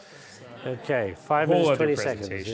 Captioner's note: laughing